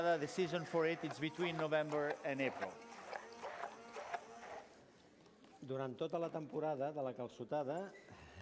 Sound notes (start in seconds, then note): 0.0 non-english; 6.5 non-english speech